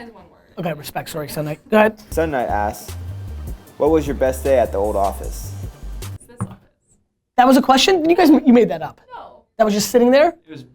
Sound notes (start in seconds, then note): 2.3 voiceover